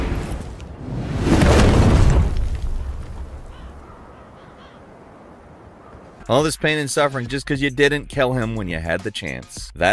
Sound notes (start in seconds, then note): 3.3 crow cawing